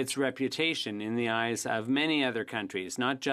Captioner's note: speaking French